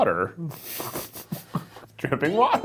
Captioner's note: laughing